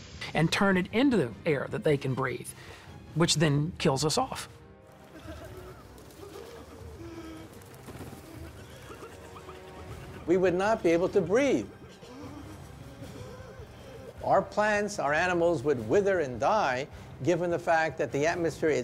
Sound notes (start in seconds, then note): 4.7 gasping and coughing